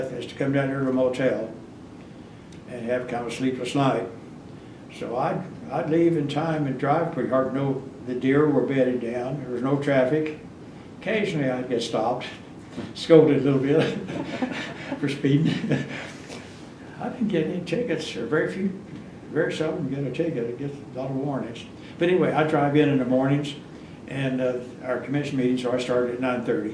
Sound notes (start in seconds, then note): 13.7 laughs